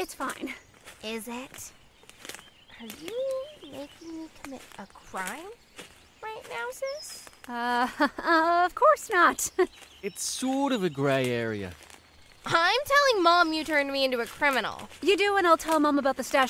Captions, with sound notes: ASTRID Is it?? Are you making me commit a crime right now, sis? KRISTIE (Nervous laugh) Of course not! JACKSON It’s sort of a gray area. ASTRID I’m telling Mom you turned me into a criminal. KRISTIE You do and I’ll tell Mom about the stash